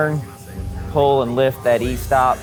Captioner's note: machine whirring